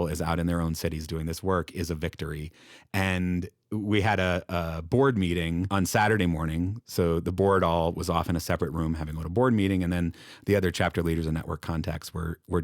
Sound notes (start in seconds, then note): none